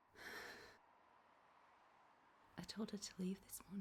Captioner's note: Marianne exhales heavily